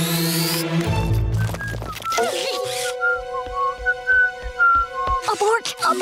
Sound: whistling; whispering

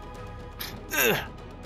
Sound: struggle.wav

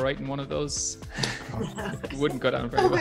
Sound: laughter

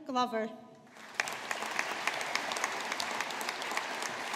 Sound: audience applauding

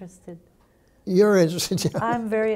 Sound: chuckles

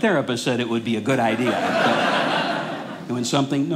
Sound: audience laughing

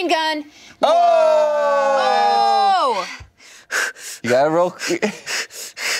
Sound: groans and heavy breathing

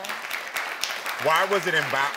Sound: audience applauds

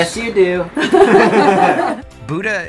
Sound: laughing

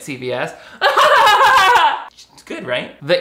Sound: laughs

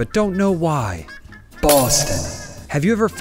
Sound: echoing; glass shattering

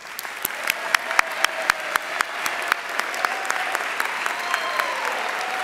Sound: audience cheering and applauding

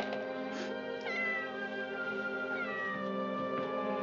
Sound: cat meows

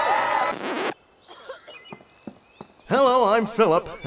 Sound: applause; cheers; zipper

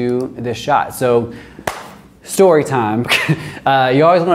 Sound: claps; chuckles

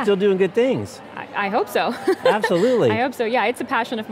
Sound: laughs

